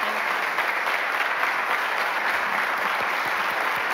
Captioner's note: audience claps